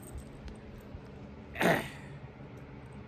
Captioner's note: Caprice grumbles